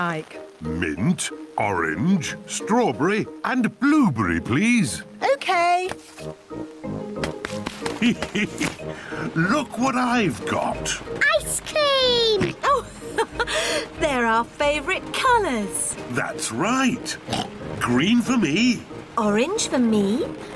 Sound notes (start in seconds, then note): 7.9 laughs; 12.3 laughs; 17.2 oinks